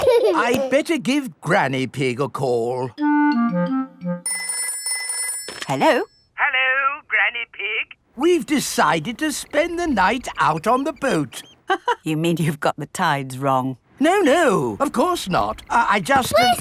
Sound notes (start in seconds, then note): 4.2 telephone ringing; 12.0 laughs